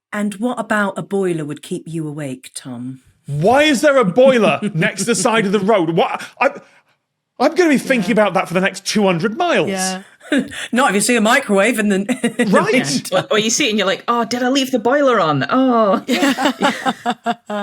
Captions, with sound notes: And what about a boiler would keep you awake, Tom? (snickers) Why is there a boiler next the side of the road? What—? I'm gonna be thinking about that for the next 200 miles! Yeah. Not if you see a microwave and then... (laughs) Right?! Well, you see it, and you're like, "Oh, did I leave the boiler on? Oh." (guests laughing)